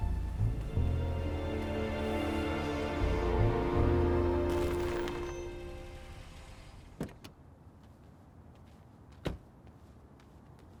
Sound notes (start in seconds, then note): 4.7 car approaching; 6.8 door opens and closes